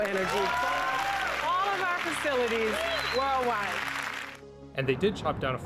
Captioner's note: alkışlar ve tezahürat